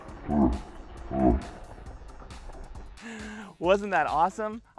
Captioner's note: laughs in slow motion